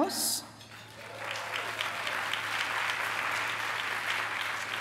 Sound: applause

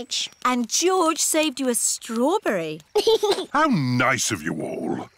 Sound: giggles

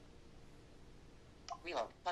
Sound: click

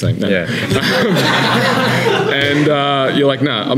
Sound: laughing

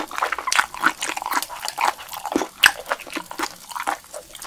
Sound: chewwwwwy

